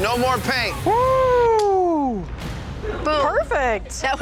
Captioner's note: person cheering